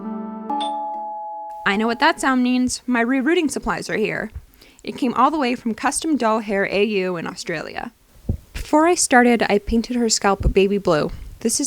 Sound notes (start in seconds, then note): 0.5 doorbell sound effect